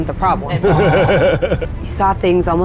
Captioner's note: chuckles